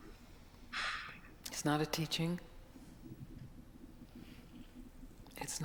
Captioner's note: sighs